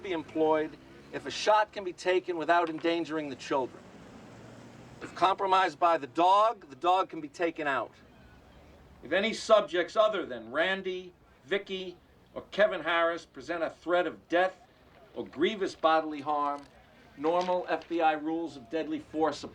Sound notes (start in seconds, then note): none